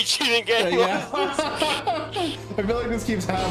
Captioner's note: laughing